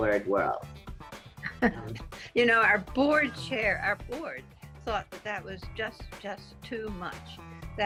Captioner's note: laughing